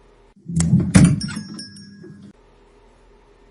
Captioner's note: shop door opens, making the bell above it jingle